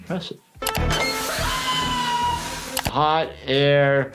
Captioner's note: chicken screaming